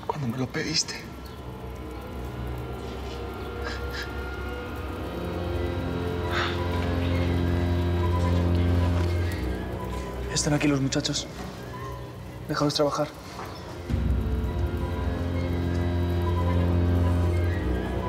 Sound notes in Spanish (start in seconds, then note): 7.0 sollozos